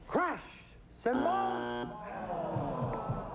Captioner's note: buzzer